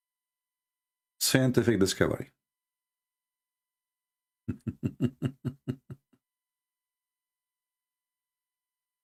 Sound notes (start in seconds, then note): 4.5 Ketawa